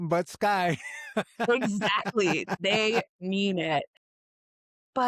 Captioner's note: laughs